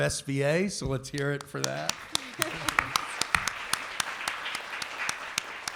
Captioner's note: applause and light laughter